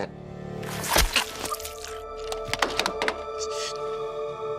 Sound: blood squishing

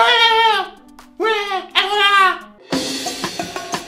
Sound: always Caribbean accent

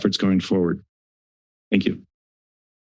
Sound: silence

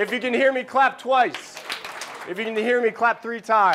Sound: clapping

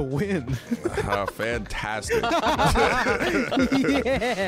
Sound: all laughing

